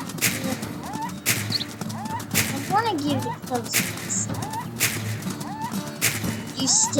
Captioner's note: coyote Screaming Sounds